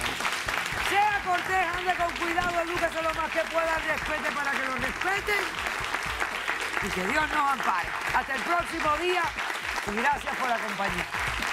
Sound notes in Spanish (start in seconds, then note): 2.3 Aplausos